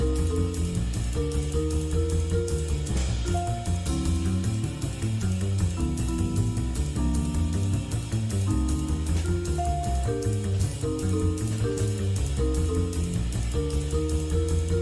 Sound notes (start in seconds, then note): none